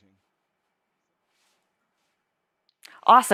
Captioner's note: silence